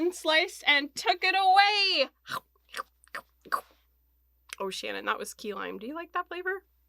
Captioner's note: eating noise